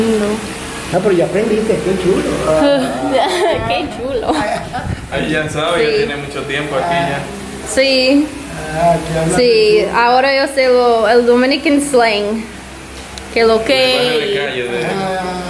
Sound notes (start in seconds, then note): 0.0 indistinct chatter